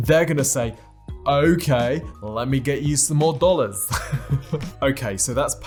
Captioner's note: laughs